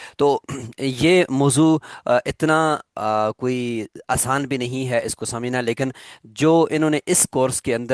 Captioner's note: throat clearing